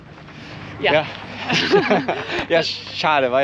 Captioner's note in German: beide lachen